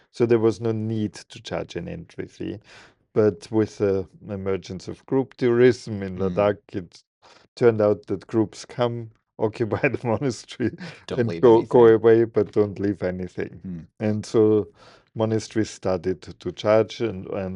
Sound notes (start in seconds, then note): 10.6 laughing